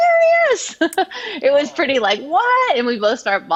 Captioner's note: chuckles